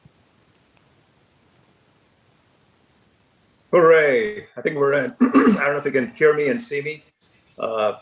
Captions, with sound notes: - Hooray, I think we're in, (clears throat) I don't know if you can hear me and see me,